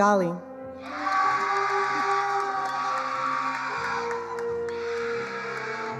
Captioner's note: attendees cheering and applauding